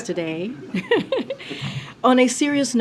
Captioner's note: laughter